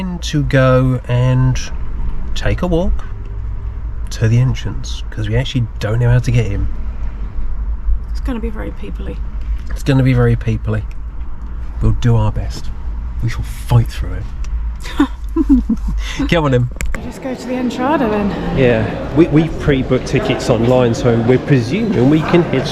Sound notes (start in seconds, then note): 14.9 laughs